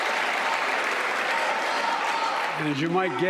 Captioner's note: applause